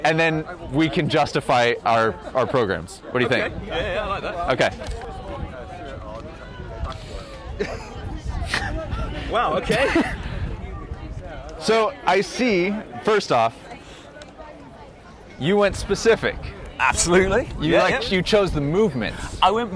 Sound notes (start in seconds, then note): 5.5 crowd conversing; 7.8 laughs